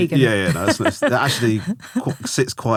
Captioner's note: laughing